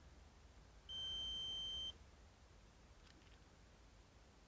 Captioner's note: beep